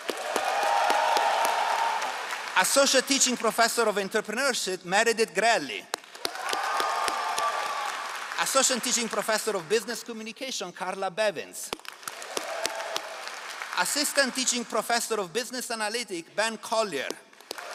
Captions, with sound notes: (all applauding) Associate Teaching Professor of Entrepreneurship, Meredith Grelli. (all applauding) Associate Teaching Professor of Business Communication, Carla Bevins. (all applauding) Assistant Teaching Professor of Business Analytic, Ben Collier.